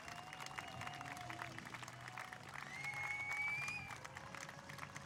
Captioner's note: cheering